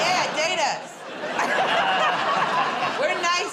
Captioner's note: laughter